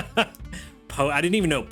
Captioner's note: laughs